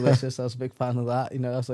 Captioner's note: laughs